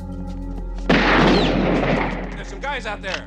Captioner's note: gunshot